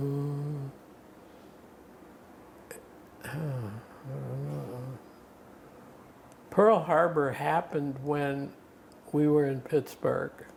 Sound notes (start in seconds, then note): 4.2 mumbling